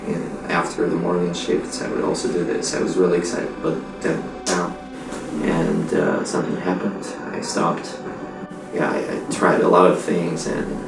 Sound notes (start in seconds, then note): 4.4 claps his hands